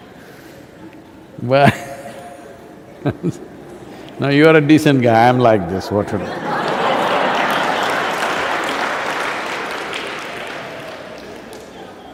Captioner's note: laughs; laughter; laughter/Applause